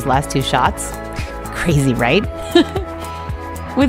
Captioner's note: laughs